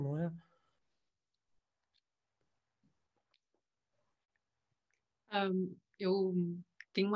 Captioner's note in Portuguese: silêncio